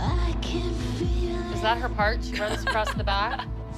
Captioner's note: laughs